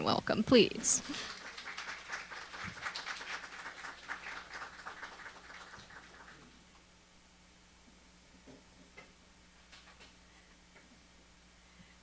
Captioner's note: applause